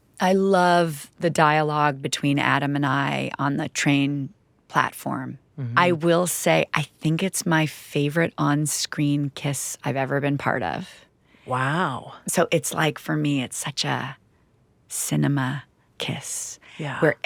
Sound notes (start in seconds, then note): none